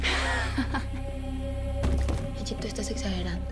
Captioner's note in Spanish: Risas